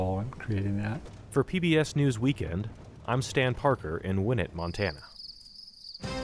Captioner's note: voice-over